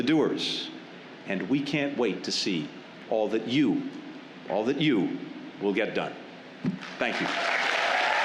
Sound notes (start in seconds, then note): 6.8 applause